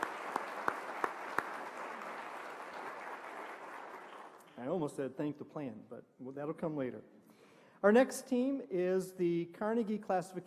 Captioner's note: applause